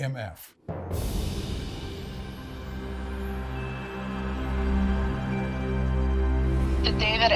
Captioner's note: soft music; wind whooshing